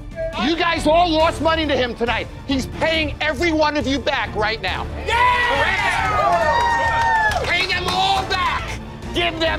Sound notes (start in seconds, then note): 5.1 cheering and clapping